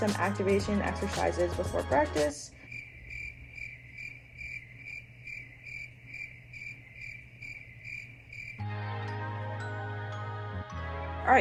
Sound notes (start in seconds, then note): 2.4 insects chirping